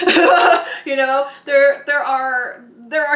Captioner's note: laughing